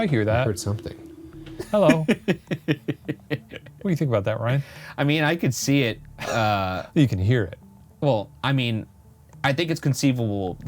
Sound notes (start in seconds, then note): 1.5 laughs